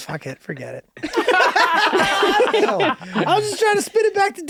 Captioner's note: all laughing